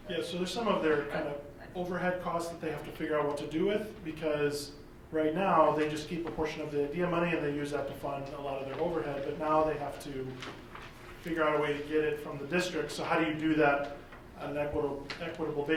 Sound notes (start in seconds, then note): none